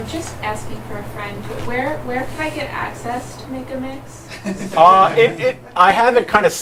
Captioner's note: laughter